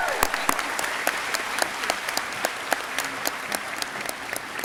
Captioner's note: audience cheering; audience clapping